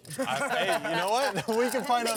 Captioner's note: laughs